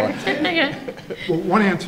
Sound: laughing

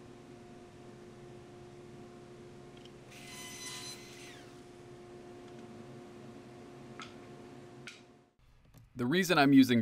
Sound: running table saw

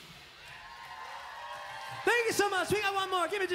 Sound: crowd cheering

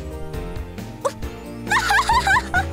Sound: breaking into a laugh; laugh

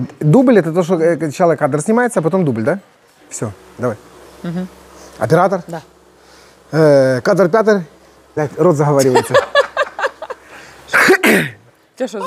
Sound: laughter

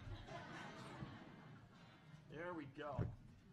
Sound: laughs

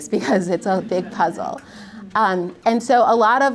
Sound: audience laughs; laughs

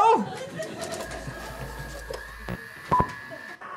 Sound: clicking and whirring

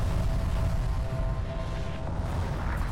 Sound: explosion

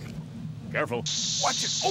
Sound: sizzling

